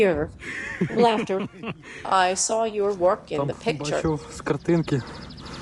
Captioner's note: laughter